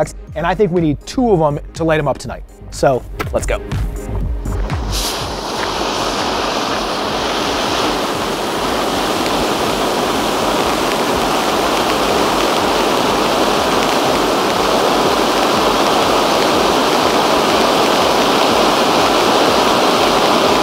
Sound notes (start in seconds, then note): 4.8 fireworks sizzling